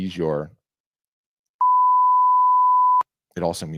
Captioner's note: loud beeping